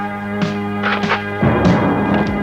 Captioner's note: gun cocking